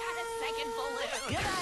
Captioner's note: balloon squeals